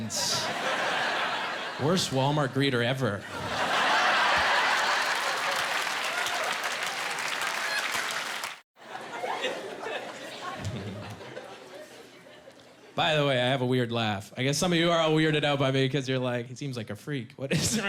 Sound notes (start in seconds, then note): 3.9 applause; 9.2 snickering